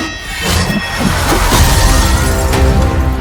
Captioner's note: intense ominous music; ax twangs; glass crashing; dark foreboding music